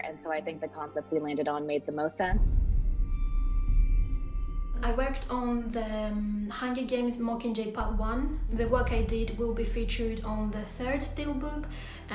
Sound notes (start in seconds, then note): 3.2 pensive music; 3.2 scene whooshing